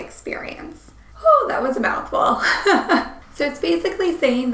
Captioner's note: laughing